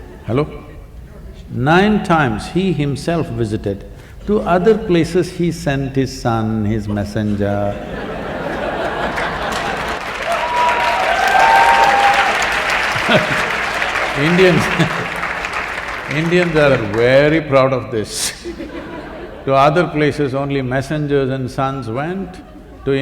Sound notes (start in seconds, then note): 8.4 laughter/Applause; 16.1 laughter